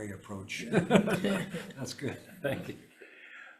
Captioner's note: members laughing